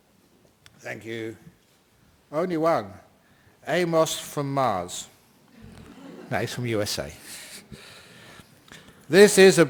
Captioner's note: laughter